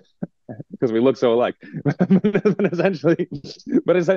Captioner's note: laughing